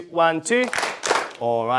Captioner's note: clap